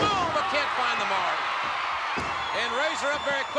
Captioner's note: spectators cheering